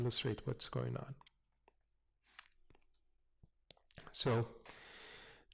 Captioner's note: pause